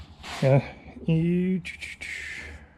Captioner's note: exhaling